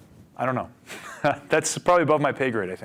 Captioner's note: laughing